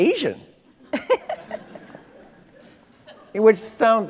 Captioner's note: laughing